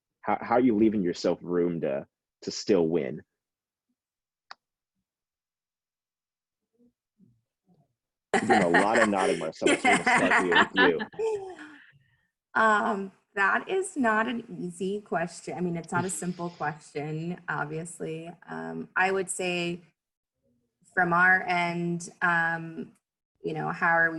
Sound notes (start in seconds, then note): 8.3 laughs